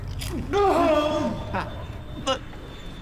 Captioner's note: BL screaming in agony